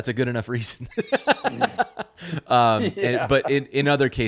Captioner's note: laughing